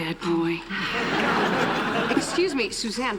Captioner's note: laughter